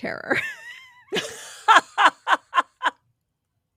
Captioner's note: laughing